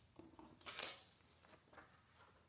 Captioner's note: paper rustling